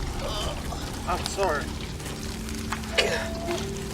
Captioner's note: Ishmael groaning